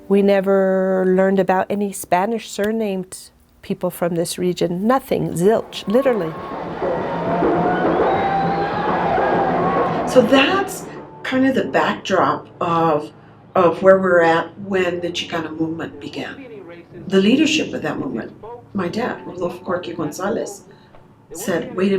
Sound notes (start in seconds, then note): 7.3 protestors cheer